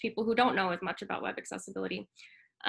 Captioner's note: none